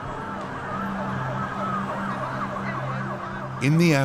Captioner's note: air plane crashing; thunderstorm rumbling; sirens; distant chattering